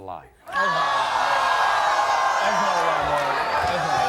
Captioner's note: audience oohs